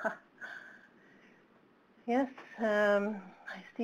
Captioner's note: chuckle